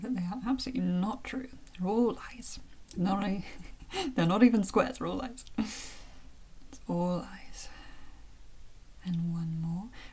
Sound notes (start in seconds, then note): 4.6 chuckle